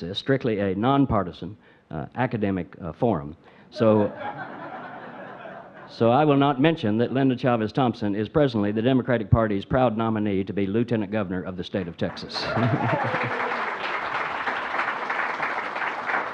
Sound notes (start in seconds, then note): 3.8 audience laughs; 12.0 audience applauds